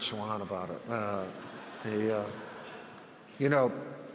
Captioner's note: audience laughs